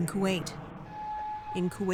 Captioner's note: sirens blaring